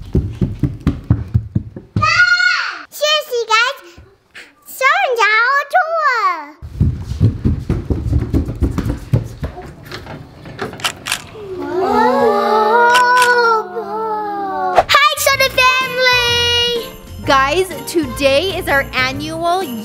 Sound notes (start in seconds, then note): 0.0 footsteps thumping; 2.1 Parker yells; 6.6 footsteps thumping